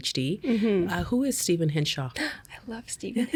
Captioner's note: gasping